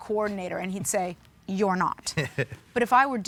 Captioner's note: bill laughs